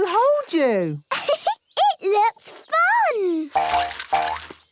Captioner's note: giggles